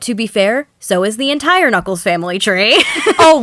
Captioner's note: about to laugh; laughs